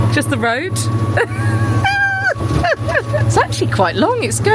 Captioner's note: laughing